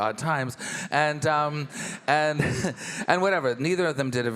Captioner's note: chuckles